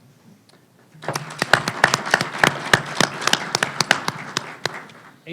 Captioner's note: panelists and audience applaud